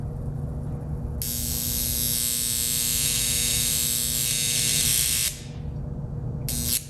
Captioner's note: electrical arc zapping